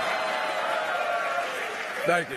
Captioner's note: applause